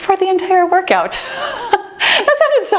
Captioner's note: laughs